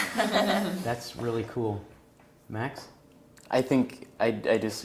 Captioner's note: laugh